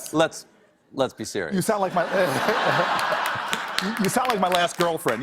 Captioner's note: laughter